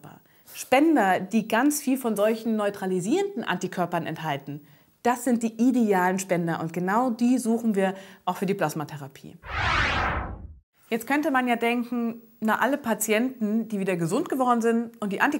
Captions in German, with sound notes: Anti-Körper. Spender, die ganz viel von solchen neutralisierenden Antikörpern enthalten, das sind die idealen Spender und genau die suchen wir auch für die Plasmatherapie. [Soundeffekt] Jetzt könnte man ja denken, alle Patienten, die wieder gesund geworden sind und die Antikörper